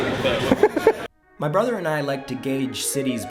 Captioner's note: laughter